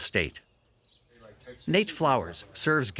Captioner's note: birds chirping